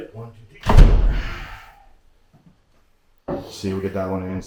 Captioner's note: stone slab thuds